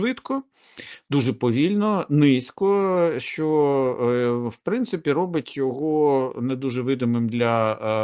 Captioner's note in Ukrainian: сопіння